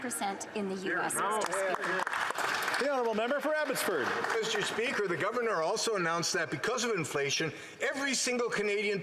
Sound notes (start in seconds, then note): 3.9 applause